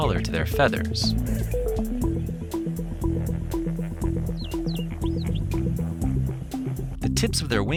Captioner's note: upbeat music; birds chirping